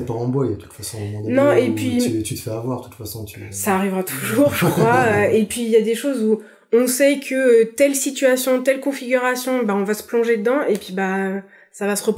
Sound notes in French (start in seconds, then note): 7.5 rire